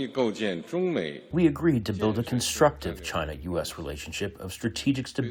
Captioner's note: through translator